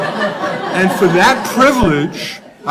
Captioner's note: laughs